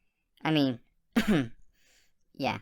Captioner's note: cough